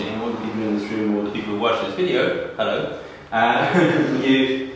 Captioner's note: laughs